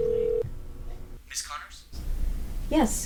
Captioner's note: Jim's Voice Though Phone